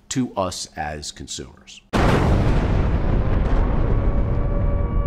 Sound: explosion

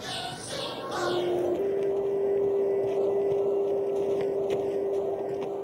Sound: wind whistling

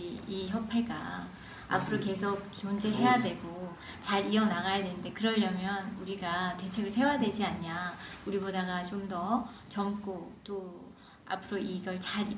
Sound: foreign language

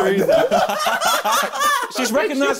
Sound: both laughing

